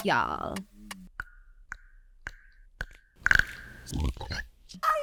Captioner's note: tongue pop